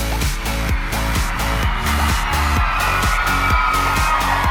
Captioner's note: audience cheering